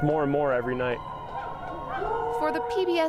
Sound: howling

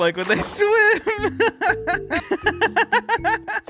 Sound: laughs

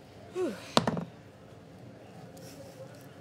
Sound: clatter

